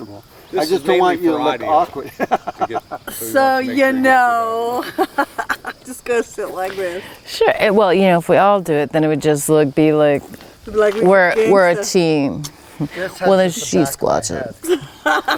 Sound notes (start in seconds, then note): 2.0 person laughing